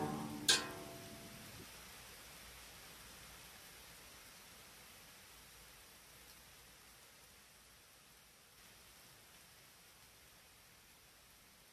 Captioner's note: rain Pouring